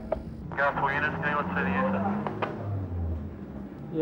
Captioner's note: man On Radio